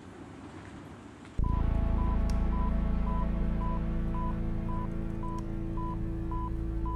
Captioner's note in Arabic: صفير